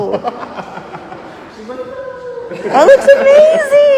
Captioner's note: laughs